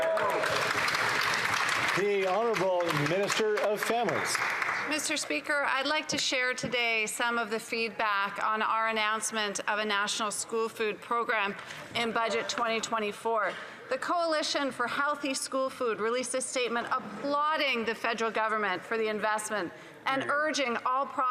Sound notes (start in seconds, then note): 5.3 some Applause